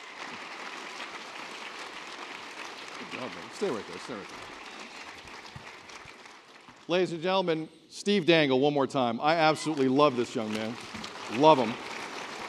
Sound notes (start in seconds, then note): 3.6 cheering